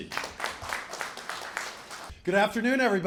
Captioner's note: applause